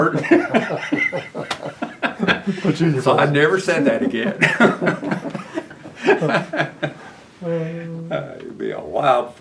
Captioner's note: laughter